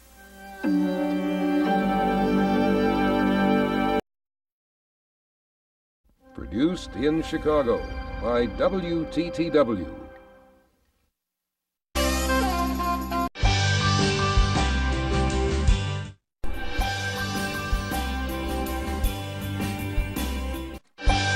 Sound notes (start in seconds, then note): 0.5 90s synth music playing; 4.2 silence; 12.0 jazzy music plays; 12.0 soul music playing; 16.6 soul music continues